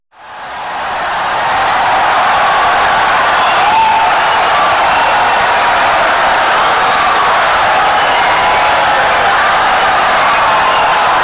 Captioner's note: wild applause and cheering for 17 seconds